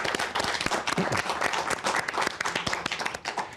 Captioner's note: applause